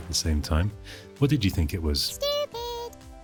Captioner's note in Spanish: voz aguda